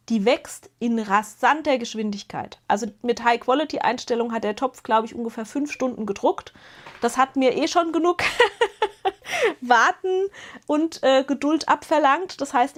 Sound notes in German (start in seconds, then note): 8.2 gelächter